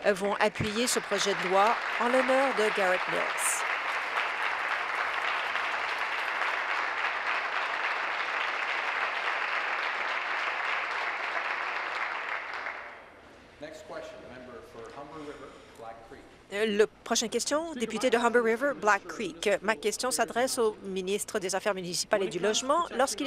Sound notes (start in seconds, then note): 3.6 applause